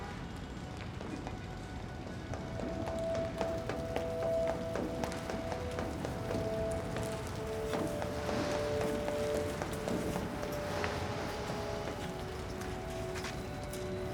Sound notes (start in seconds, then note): 1.0 hurried footsteps; 1.0 pensive music